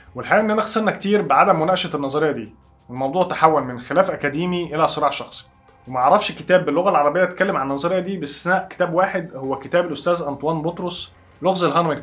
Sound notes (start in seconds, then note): 10.8 in Arabic